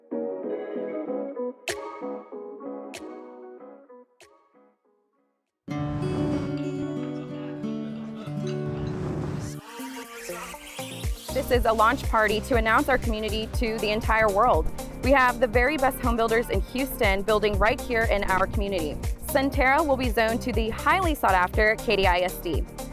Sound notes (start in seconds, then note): 5.6 whoosh